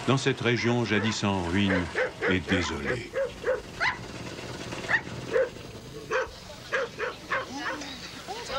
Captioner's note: yapping